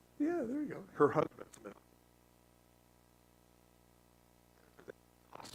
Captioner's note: static